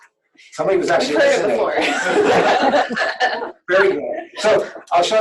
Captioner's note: background laughter